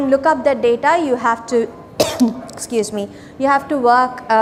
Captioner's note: coughs